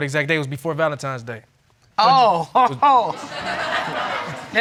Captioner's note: laughs; audience laughs